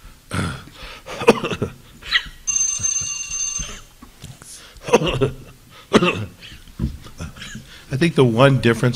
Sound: coughing

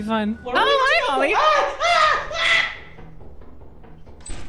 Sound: screams

